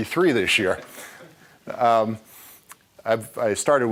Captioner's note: laughing